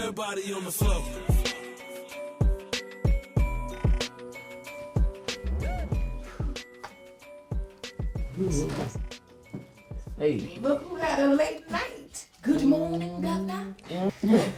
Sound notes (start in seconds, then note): 1.4 rap music; 8.7 Drew yawning